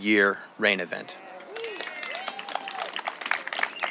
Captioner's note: cheering